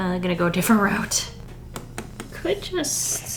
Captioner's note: taps pencil on sketchbook